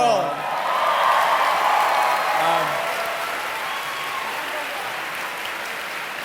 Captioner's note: audience cheering